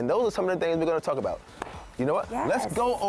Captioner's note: claps hands